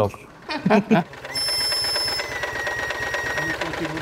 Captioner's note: locomotive whistle, mechanical sounds